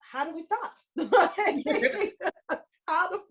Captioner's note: laughing